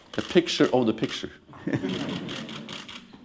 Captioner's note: laughter, camera clicking